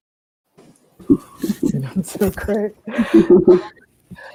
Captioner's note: laughter